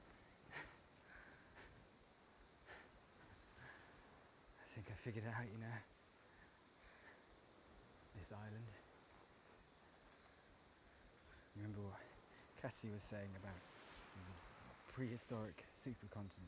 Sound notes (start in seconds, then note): none